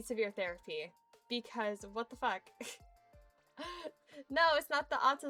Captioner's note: giggles